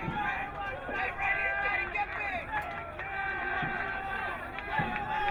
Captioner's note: crowd cheering